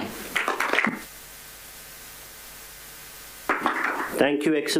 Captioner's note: applause